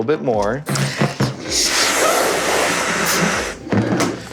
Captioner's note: air whooshes